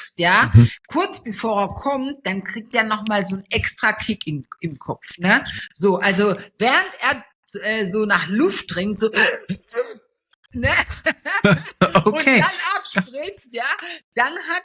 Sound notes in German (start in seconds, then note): 10.6 gelächter